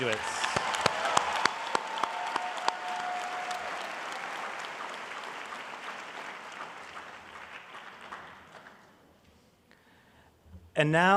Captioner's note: applause